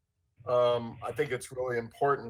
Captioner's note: audio interference